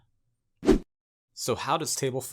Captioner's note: graphic whooshes